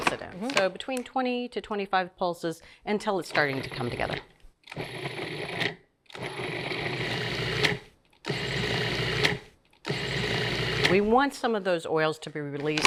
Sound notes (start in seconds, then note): 4.5 processor whirring